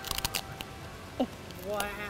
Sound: chip crunches

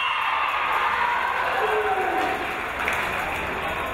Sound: whistle blows

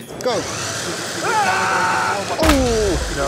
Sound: car engine

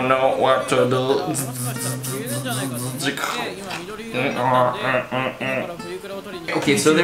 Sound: robot sounds

